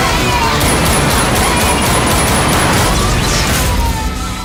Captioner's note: guns shooting